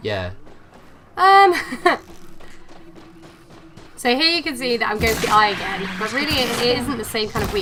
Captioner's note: laughs